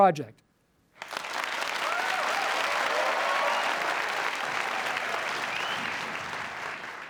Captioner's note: applause